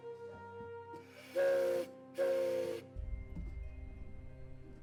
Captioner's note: train whistling